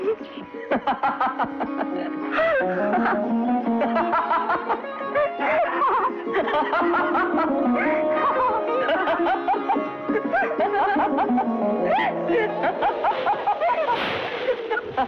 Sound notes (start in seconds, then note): 3.8 laughing